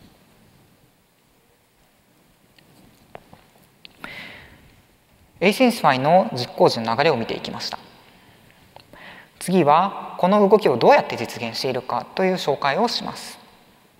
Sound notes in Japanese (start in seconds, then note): none